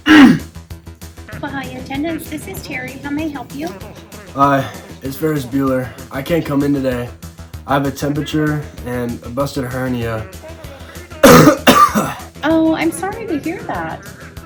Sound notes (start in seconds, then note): 9.7 coughing